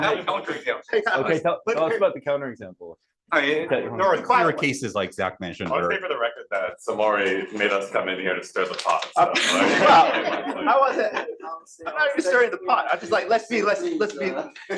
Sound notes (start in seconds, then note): 9.3 laughter